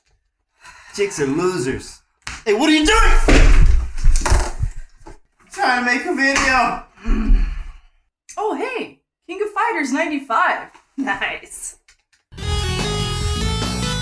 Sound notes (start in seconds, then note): 3.0 crash